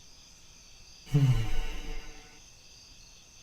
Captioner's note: Ace sighs